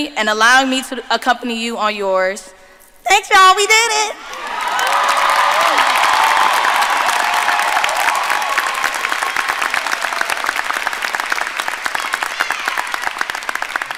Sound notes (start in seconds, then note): 4.2 audience applauding and cheering